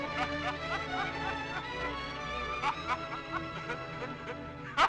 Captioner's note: Joe laughing